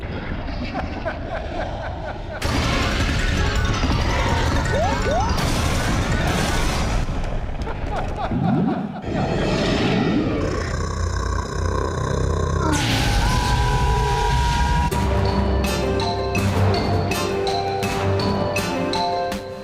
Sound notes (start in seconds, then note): 0.4 hahahaha; 9.1 growls and fire breathe